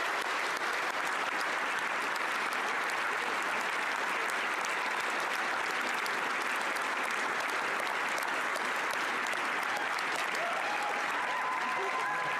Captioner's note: applause